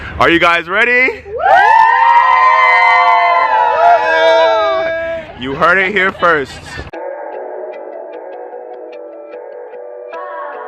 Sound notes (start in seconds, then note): 1.4 crowd cheers